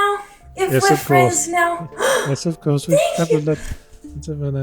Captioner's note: gasp